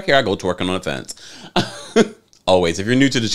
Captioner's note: laughs